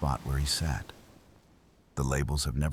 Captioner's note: wind Blowing